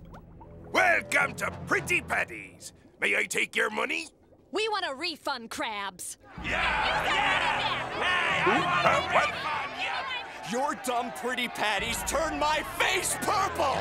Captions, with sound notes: Welcome to Pretty Patties. May I take your money? We want a refund, Krabs. [yelling, protesting] Who, huh, What? Your dumb Pretty Patties turned my face purple!